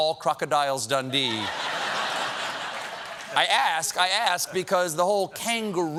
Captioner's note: laughter